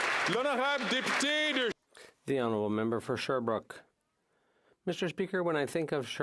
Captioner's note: some Applause